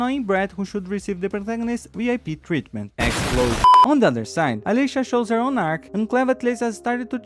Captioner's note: explosion